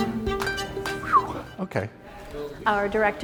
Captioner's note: whistles "phew"